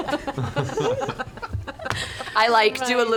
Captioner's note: more laughter